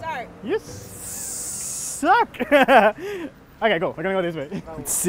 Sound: laughs

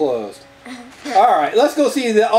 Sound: laughs

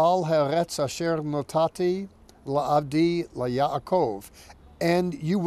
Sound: speaking in Hebrew

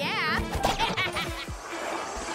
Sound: snickers

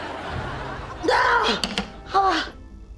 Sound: shrieking

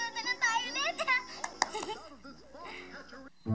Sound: Ethel giggles

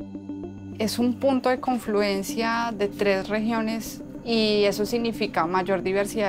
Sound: speaking in foreign language

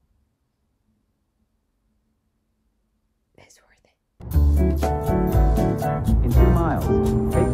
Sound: whispering

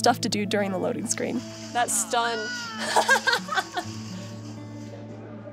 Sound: laughs

